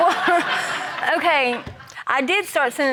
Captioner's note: laughter